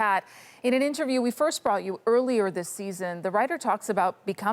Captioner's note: none